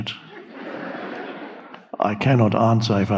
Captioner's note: audience laughing